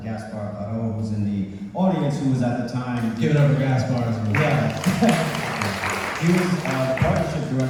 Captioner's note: audience applause